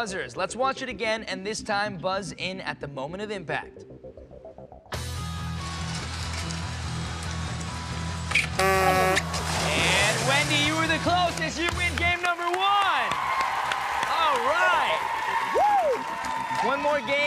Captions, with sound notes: ON YOUR BUZZERS. LET'S WATCH IT AGAIN, AND THIS TIME BUZZ IN AT THE MOMENT OF IMPACT. [horn buzz] AND WENDY, YOU WERE THE CLOSEST. YOU WIN GAME NUMBER ONE. [cheers and applause] ALL RIGHT. WHOO.